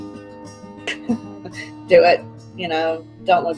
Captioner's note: laughing